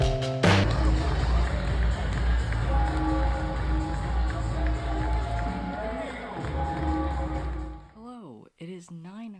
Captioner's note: crowd cheering, bell ringing